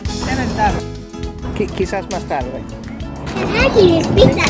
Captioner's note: in Spanish